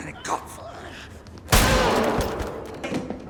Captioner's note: bang